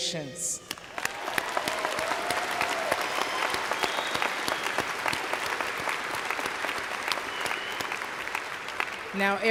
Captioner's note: applause/cheers